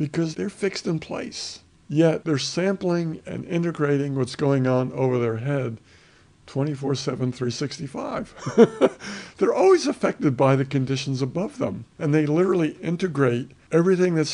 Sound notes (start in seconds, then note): 8.4 laughs